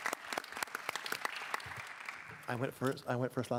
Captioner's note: applause